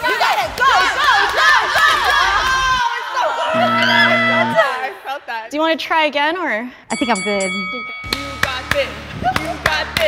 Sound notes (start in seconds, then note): 0.0 encouraging cheers; 3.5 buzzer rings; 9.9 encouraging chanting